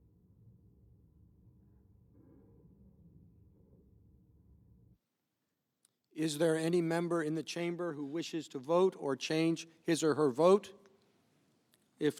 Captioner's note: silence